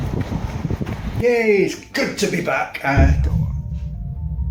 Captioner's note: thud